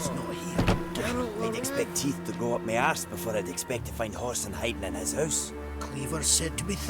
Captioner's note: scoffs